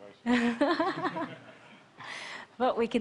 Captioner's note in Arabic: ضحك